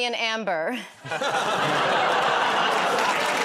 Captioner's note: laughs; applause; audience groans